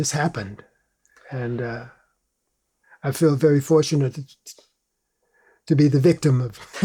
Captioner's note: laughs